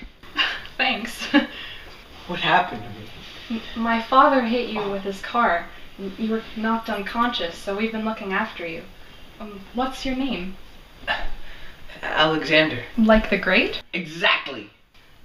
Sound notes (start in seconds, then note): 0.4 Lorraine chuckles; 11.3 Alex catches his breath